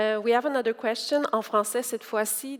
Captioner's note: speaking French